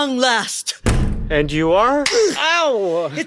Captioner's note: door opening; sound of a slap